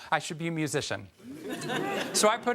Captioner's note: audience chuckles